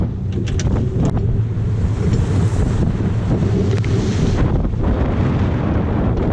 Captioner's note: wind noise